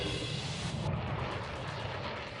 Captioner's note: nats of jet flyover